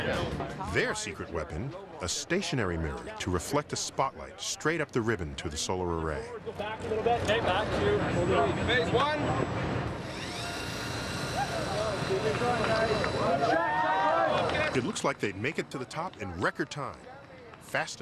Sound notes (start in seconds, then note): 9.7 cheering